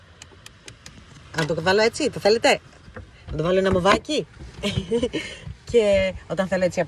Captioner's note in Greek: γέλια